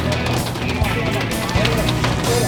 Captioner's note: murmuring